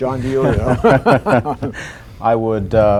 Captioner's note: laughter